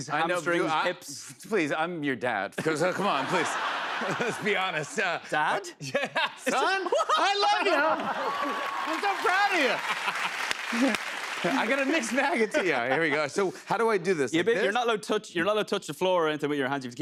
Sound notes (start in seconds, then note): 2.6 laughter; 5.9 laughter and applause; 10.6 laughs